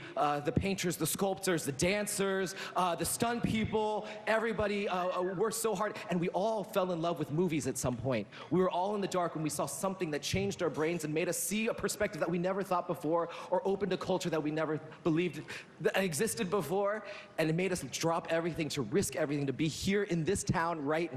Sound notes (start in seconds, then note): none